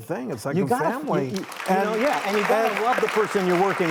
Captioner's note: audience applauding